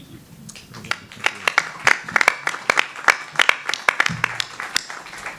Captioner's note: audience applauding